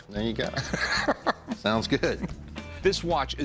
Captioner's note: laughs